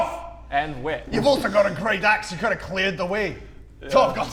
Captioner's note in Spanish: acento escocés